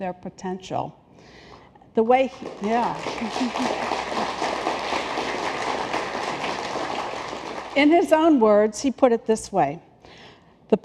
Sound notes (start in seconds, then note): 5.1 applause